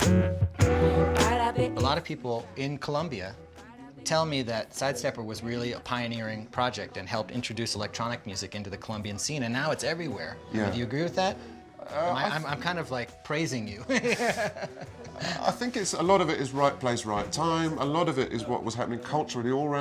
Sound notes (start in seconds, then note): 0.1 latin music; 13.8 laugh